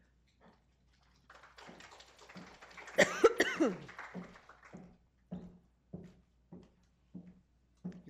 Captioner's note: applause